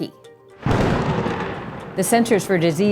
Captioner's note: lightning booms